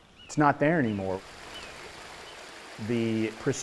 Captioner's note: water flowing